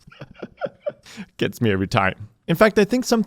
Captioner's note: laughs